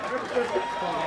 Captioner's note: crowd cheering